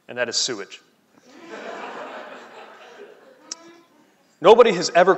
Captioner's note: laughing